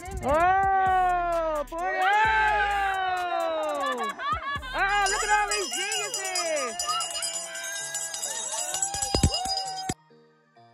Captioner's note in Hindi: चिल्लाओ, हँसी और उत्तेजना!